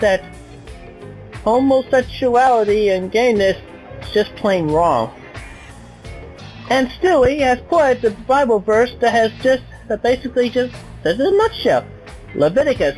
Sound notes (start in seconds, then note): none